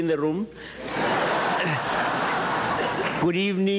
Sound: audience chuckles

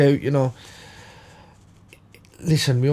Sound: silence

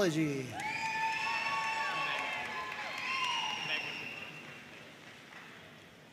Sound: audience cheering and applauding

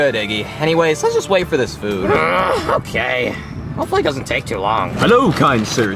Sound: grunts

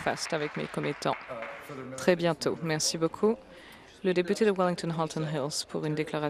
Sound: applause

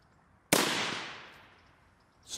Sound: rifle fires

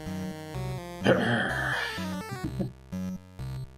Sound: growls and chuckles

